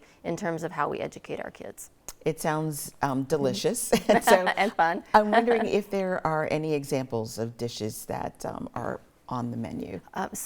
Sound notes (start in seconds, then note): 4.1 laughing